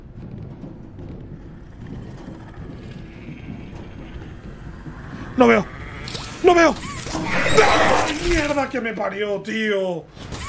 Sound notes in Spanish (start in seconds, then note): 3.1 Gruñido; 7.5 grita